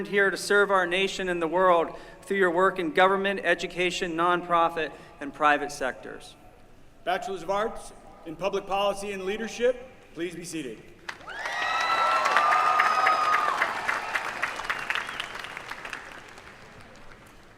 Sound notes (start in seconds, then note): 11.0 applause